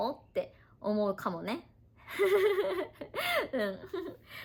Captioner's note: laughs